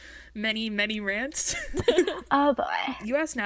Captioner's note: hosts laugh